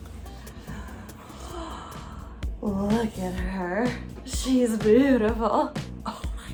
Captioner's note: deep gasp; whispering